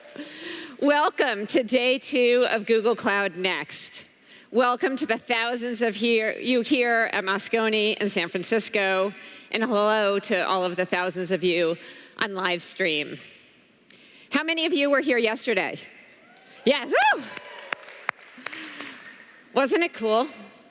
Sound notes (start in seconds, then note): 17.2 applause